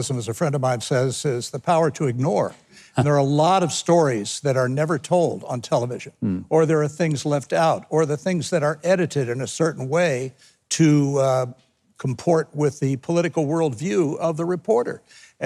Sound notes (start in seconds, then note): 2.9 chuckles